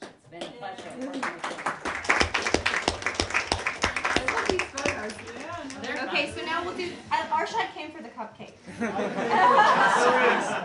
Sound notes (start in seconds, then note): 0.4 applause; 8.6 laughter